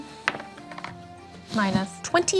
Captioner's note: die rolls